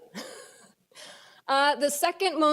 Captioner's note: laughs